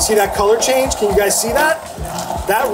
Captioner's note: blender buzzes